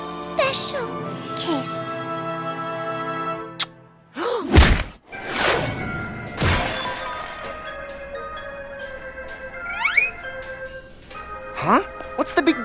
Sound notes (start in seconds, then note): 3.0 gasps; 6.3 glass shatters